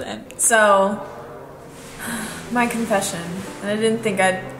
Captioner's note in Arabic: تتنهد